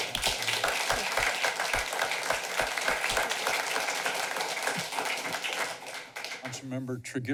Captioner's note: clapping